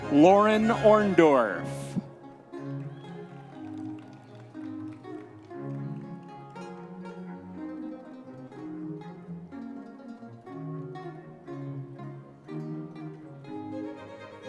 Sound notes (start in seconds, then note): 2.5 audience members cheering